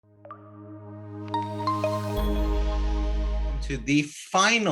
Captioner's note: logo chiming